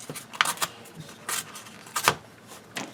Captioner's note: tearing sounds